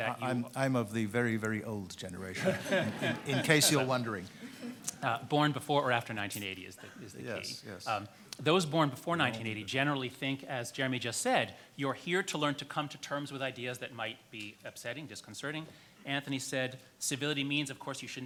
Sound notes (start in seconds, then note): 4.2 everyone laughing